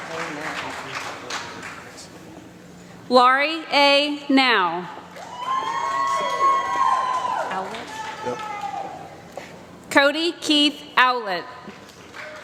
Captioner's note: applause